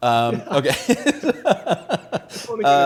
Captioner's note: laughs